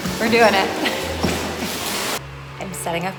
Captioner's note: laughs